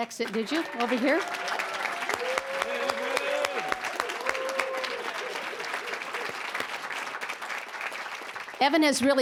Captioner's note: cheering, applause